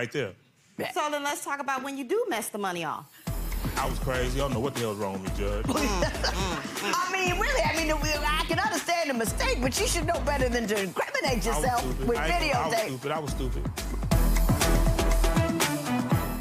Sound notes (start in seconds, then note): 5.7 laughing; 13.9 upbeat music